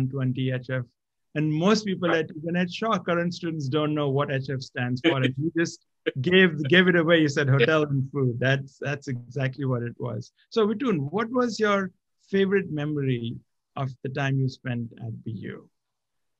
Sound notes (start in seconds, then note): 5.0 laugh